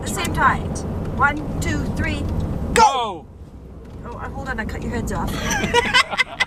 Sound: laughing

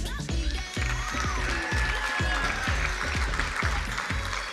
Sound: crowd applauding

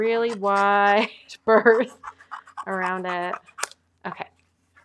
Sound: chuckling

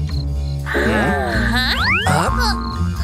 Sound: groans

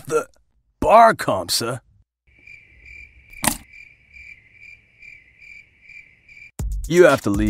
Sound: cricket sounds

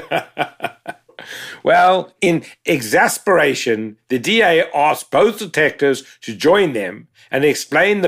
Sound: laugh

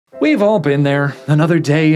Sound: voiceover

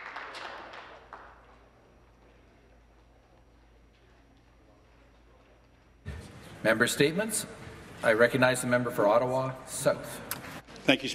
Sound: some Applause

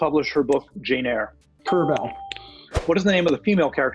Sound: ding

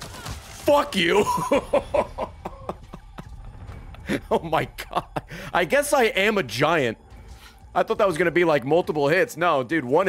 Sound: laughs

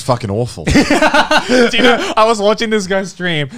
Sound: both chuckles

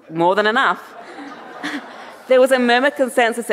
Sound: audience laughing

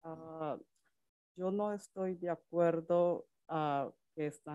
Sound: speaks Spanish

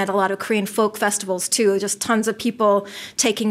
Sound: none

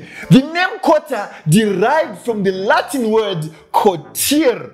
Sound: speaks Latin

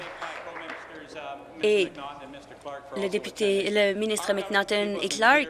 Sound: applause

